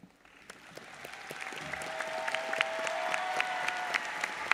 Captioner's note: audience applauds